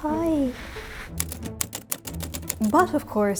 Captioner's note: letters clacking